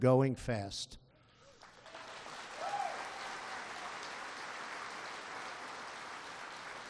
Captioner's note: applause